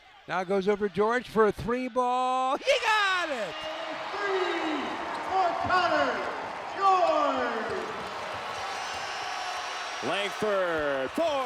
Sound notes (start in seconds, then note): 3.5 crowd cheering